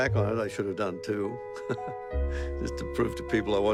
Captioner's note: laughing